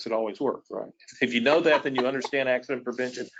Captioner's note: laughs